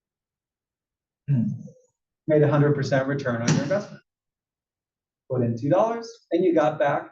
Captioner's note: cough